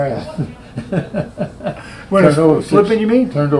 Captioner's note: Richard laughing